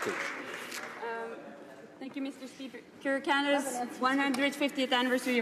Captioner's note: some Applause